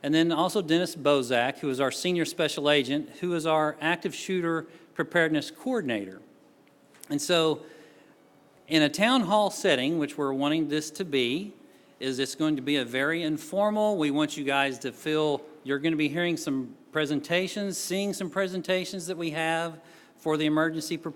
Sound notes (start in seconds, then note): none